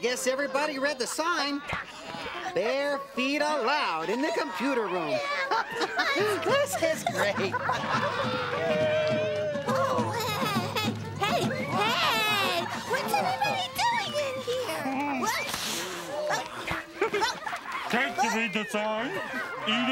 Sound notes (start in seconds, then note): 5.1 laughing; 14.2 kids blowing cracker crumbs